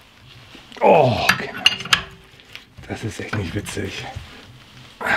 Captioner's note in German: stöhnt